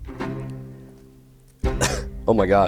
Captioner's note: cough